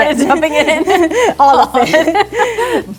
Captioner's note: chuckles